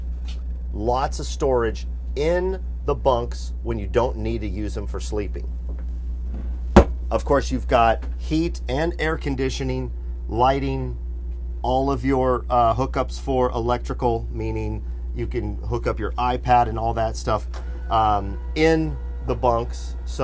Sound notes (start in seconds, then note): 6.7 thuds